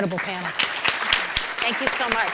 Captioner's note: applause